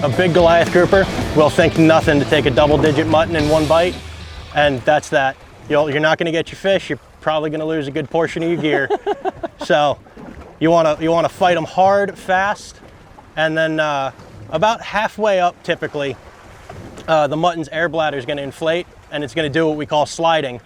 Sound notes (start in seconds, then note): 8.4 laughing